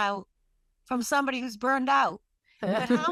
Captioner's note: laughs